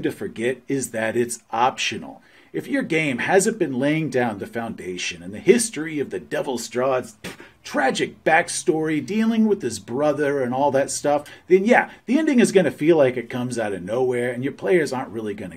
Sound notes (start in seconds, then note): 7.1 spit